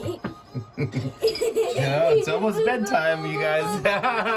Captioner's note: laughter; laughs